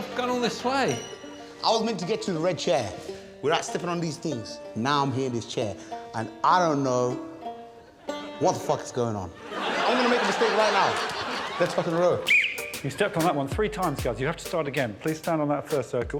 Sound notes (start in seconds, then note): 9.3 audience laughing; 12.2 Alex blows whistle